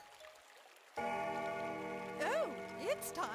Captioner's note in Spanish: campana suena